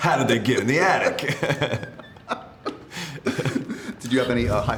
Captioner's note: laughing